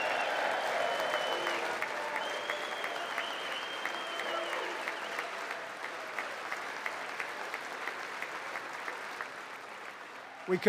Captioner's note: applause